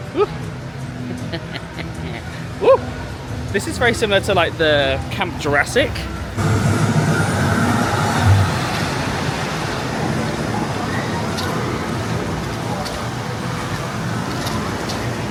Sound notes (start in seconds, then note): 1.1 laughing; 5.3 roller coaster wheels thundering